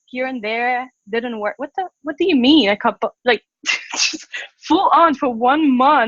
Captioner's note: laughs